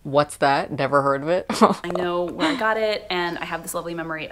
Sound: laughter

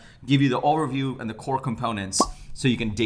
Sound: bubble popping

